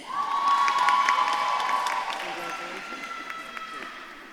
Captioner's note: audience claps and cheers